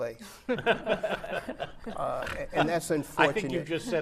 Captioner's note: laughing